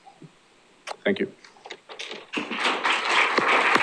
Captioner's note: applause